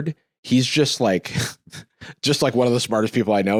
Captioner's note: laughs